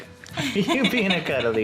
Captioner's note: laughs